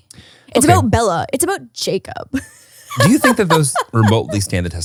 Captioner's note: laughs